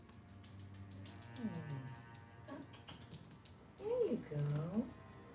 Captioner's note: claws scratching